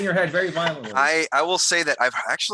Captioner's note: laughing